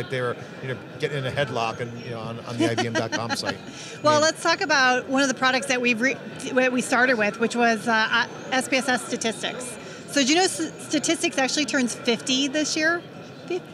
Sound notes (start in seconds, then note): 2.5 laughing